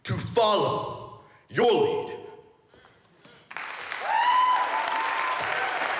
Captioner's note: audience cheers and applauds